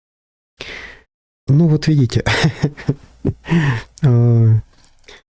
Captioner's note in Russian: смех